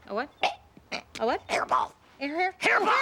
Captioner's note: choking